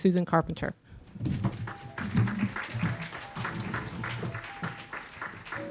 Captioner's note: audience clapping